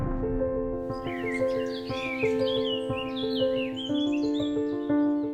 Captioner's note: explosions; birds chirping